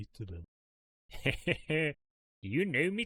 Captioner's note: laughs